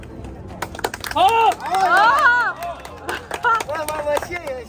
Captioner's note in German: laugh